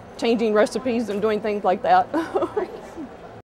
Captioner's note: laughs